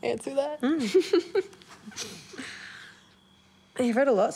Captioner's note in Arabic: تضحك كريستال